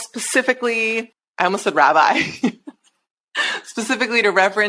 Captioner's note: chuckles